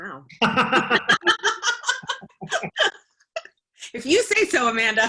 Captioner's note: laughter